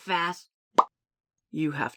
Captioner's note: pop!